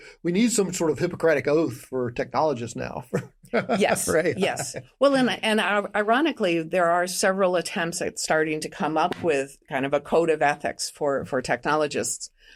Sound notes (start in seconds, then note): 3.1 laughs